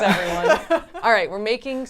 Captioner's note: laughs